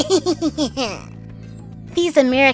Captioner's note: laughter